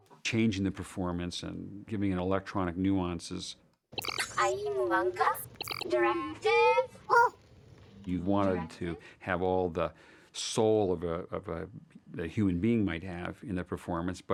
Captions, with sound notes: ...changing the performance and giving it electronic nuances. (INQUIRING IN FOREIGN LANGUAGE) Directive? Oh! You'd want it to have all the soul that a human being might have in the performance,